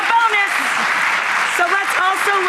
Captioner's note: audience applause